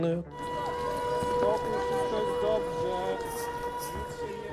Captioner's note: air raid siren sounding